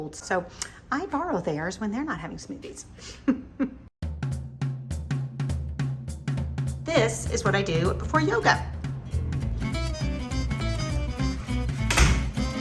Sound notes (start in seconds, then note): 3.1 upbeat music; 3.2 giggles; 9.8 upbeat music